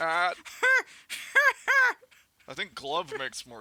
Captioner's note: Leia cackles